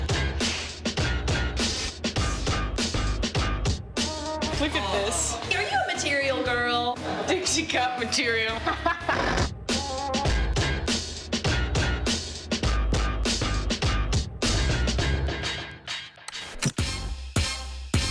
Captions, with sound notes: (hip hop music) - Look at this. - Are you a "Material Girl?" - Think she got material. (laughter) (hip hop music)